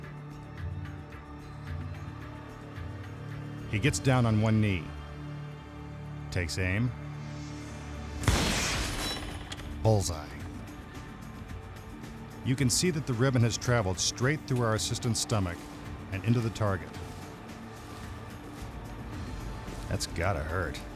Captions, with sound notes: He gets down on one knee, takes aim, (gunshot) bullseye. You can see that the ribbon has traveled straight through our assistant's stomach and into the target. That's gotta hurt.